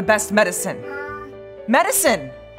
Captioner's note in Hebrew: יללה